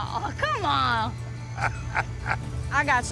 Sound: laughter

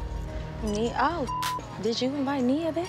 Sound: beep

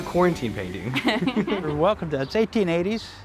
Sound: laughing

